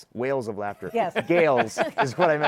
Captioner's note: laughs